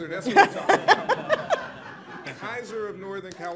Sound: laughing

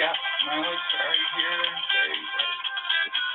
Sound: phone ringing

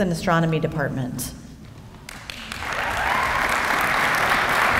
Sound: applause

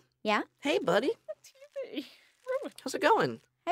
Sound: sobbing

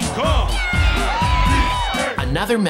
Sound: cheering

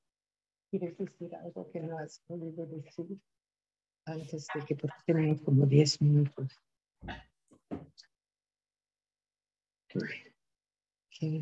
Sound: speaking spanish

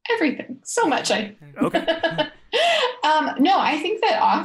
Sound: laughing

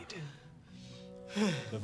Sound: sighs

